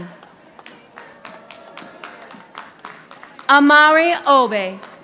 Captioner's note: audience applauding